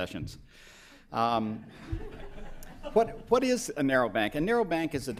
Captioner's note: laughter